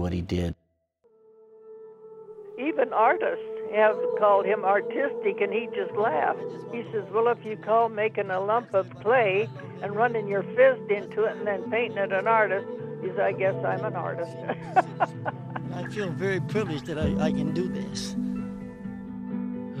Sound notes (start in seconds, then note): 15.2 laughing; 19.1 solemn music